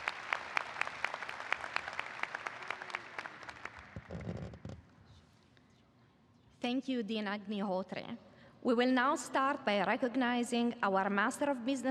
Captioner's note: applause